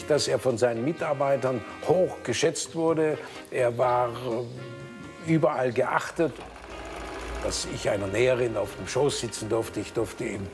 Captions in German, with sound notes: dass er von seinen Mitarbeitern hoch geschätzt wurde. Er war überall geachtet. (Maschinenrattern) Dass ich einer Näherin auf dem Schoß sitzen durfte,